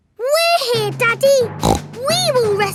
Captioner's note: snorts